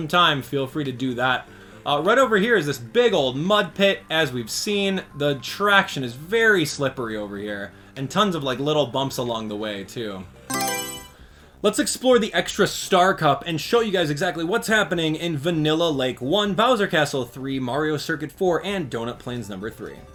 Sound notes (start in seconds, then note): 10.4 Mario Selection Sound